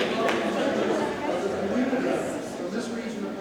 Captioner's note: group chattering